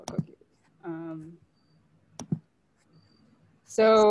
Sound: clicking

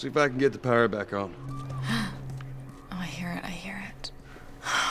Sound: distant shriek; gasps; whispers in annoyance

